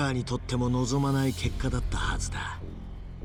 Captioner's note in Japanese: none